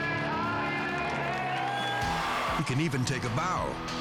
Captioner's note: audience cheering